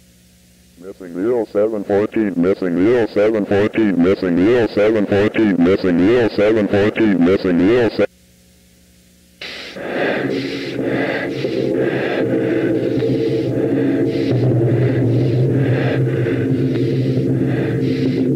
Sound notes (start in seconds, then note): 9.4 heavy breathing; 9.8 ominous music